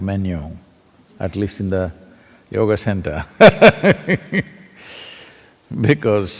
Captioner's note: laughs